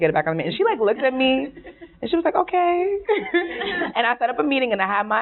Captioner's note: laughing